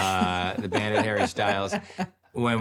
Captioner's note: laughing